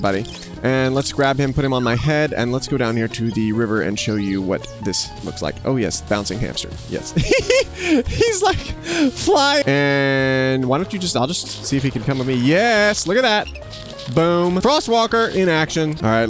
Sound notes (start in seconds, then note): 7.1 laughs